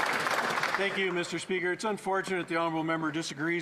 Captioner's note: some Applause